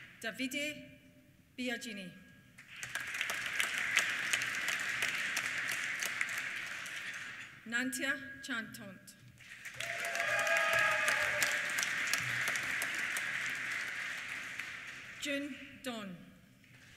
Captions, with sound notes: Davide Biaggini. (APPLAUSE) Nantia Chantant. (CHEERS) (APPLAUSE) Jun Dong.